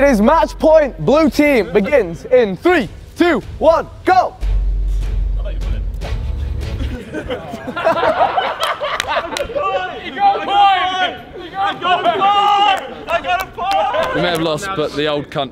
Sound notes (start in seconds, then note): 4.6 intense instrumental music; 4.6 men laughing